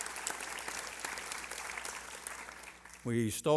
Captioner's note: applause